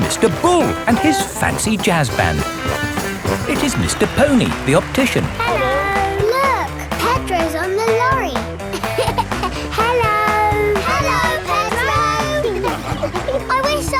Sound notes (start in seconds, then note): 8.5 laughing